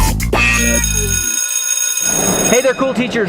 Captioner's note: bell rings